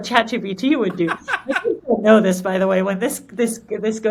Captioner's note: laughing